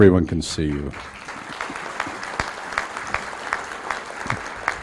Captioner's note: applause